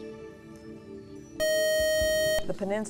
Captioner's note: buzzer